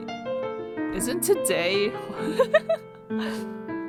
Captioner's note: laughs